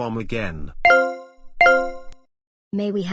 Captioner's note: intercom beeping